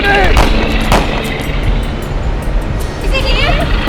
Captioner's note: gun fires